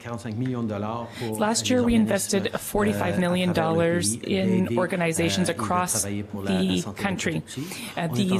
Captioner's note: speaking French